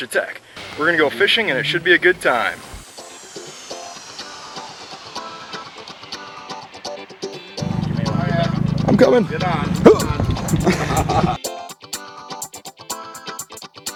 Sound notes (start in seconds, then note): 2.7 upbeat music; 8.9 laughing; 11.4 upbeat music